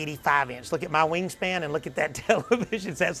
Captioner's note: laughs